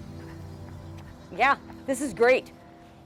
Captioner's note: jogger running